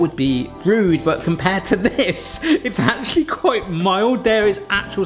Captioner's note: laughing